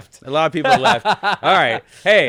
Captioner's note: laughing